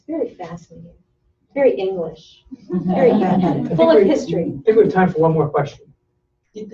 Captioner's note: laughter